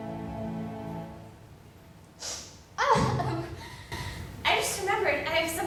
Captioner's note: sniffle